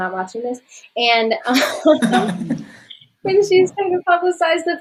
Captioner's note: laughing